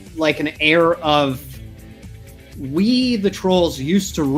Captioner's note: none